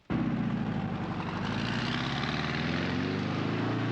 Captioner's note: engine revving